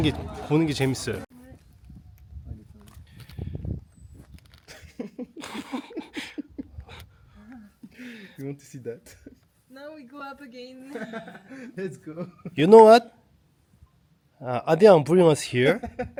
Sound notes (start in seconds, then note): 8.5 just laughing